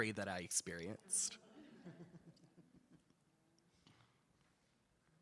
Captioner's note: attendees laughing